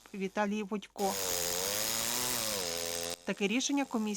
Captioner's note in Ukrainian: Звук електропили